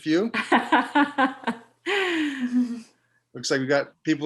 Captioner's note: laughs